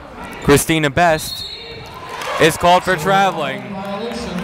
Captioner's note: whistle blowing